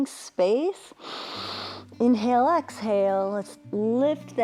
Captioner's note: inhales